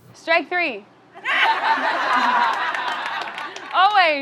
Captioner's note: audience laughing